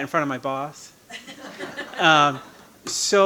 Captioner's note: audience laughing